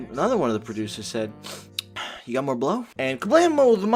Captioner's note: sniff